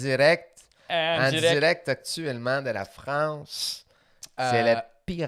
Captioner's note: quebec accent